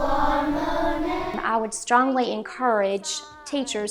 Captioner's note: voice-over